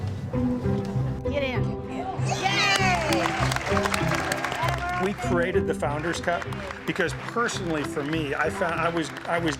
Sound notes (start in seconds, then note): 2.2 cheering and clapping